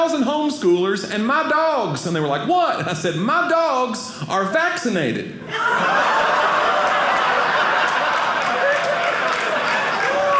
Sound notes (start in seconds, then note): 5.4 audience laughing; 8.6 audience applauding